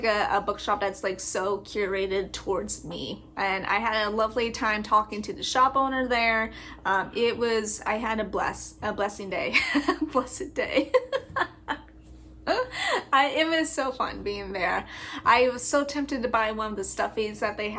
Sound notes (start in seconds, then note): 10.8 laugh